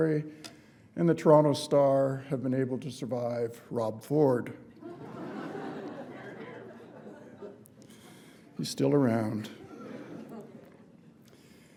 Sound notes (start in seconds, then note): 4.7 laughter